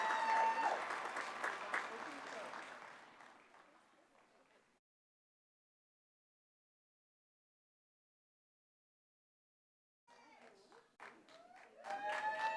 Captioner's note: applause